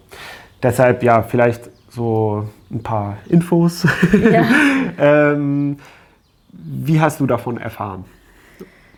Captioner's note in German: gelächter